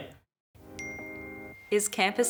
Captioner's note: ping